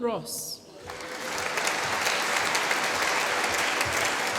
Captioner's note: applause